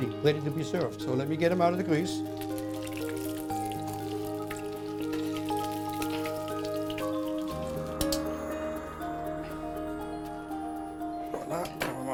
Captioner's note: crackling noise